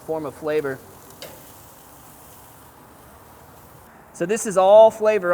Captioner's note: steaks sizzling